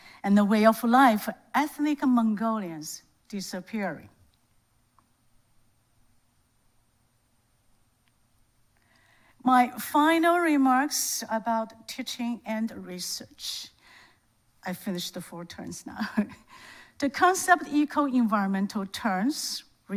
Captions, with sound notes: and the way of life for ethnic Mongolians disappearing. My final remarks about teaching and research. I finished the four turns now. (laughs) The concept eco-environmental turns